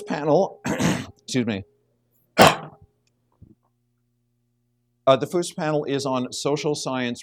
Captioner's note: clears throat